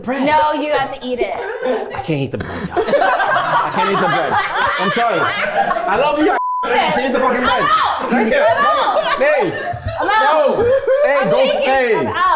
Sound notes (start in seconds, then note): 1.5 everyone laughs